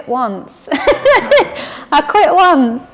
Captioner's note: laughing